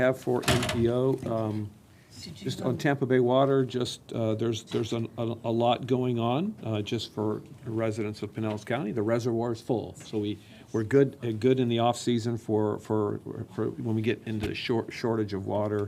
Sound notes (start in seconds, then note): none